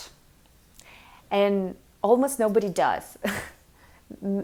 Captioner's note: chuckles